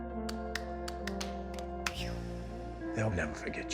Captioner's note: hands clapping